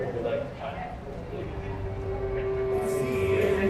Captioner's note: conversation murmurs